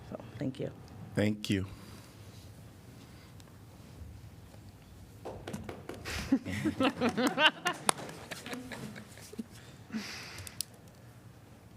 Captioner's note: laughter